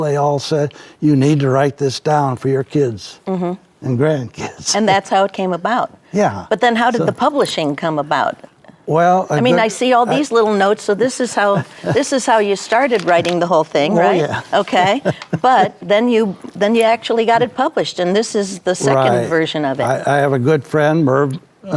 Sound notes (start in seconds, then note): 13.8 chuckles